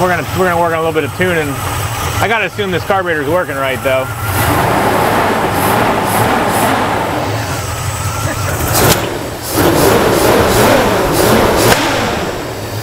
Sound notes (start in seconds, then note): 4.5 engine revs